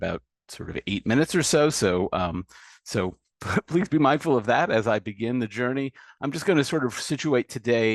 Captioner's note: laughs